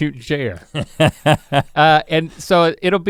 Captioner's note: Rhett laughs